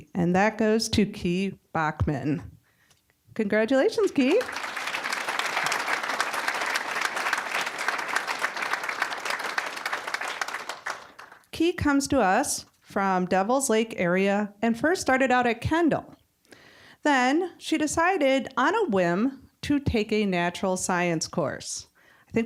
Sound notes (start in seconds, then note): 4.0 applause